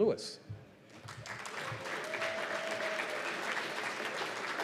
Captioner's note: cheers and applause